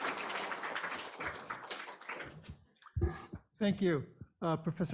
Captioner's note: audience applauds